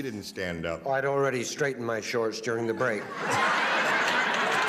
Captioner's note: laughter